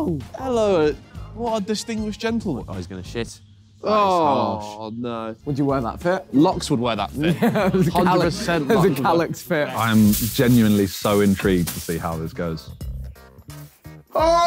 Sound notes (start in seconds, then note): 3.8 groaning